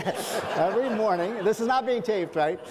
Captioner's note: audience laughs